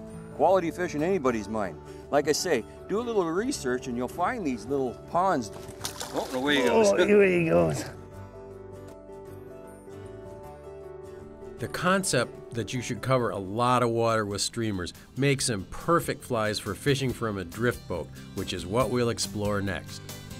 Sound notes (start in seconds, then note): 5.4 water splashes; 8.9 slow guitar music